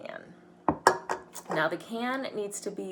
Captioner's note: can clattering